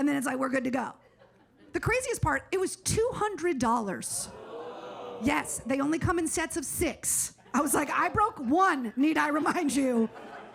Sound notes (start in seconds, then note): 4.4 audience oohs